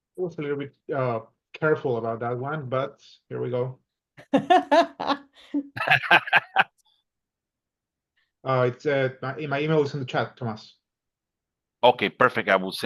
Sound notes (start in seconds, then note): 4.1 laughing